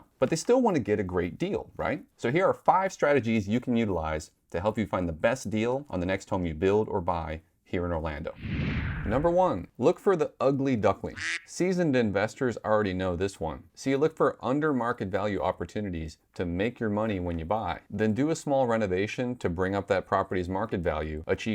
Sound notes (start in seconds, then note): 8.3 whooshing; 11.1 duck quacks